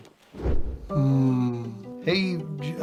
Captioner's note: dreamy sounds